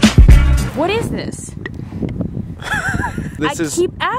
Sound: laughs

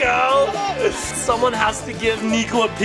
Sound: giggles

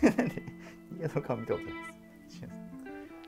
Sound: laughing

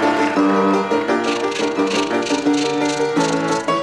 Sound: rattling

